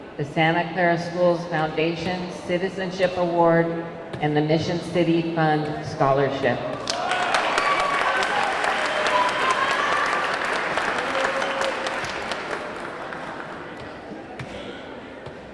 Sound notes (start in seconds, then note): 6.8 audience cheering; 6.8 audience clapping